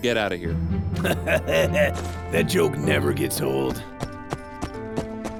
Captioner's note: laughs